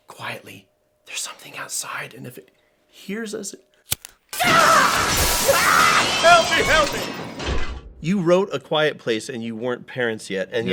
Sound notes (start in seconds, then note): 0.1 whispers; 4.3 glass breaking, yells, general chaos